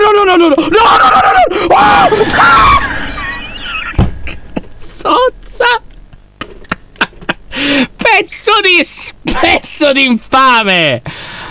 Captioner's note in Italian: urla